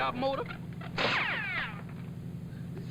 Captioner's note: bullet whizzing